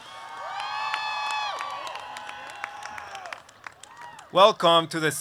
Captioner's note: applause